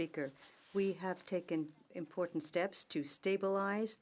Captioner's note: speaking French